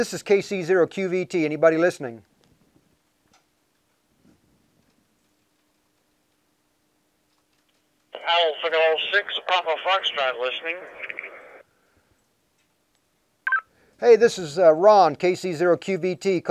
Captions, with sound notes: Yeah, this is KC0QVT. Anybody listening? - [Man Over Radio] PS6BF listening. (device chirps) Hey, this is Ron KC0QVT